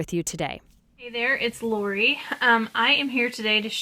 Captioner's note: voiceover